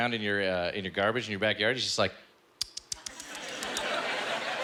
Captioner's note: munching